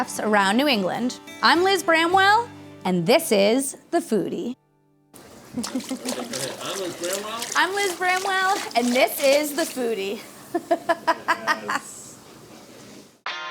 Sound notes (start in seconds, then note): 5.1 splashing; 10.5 laughs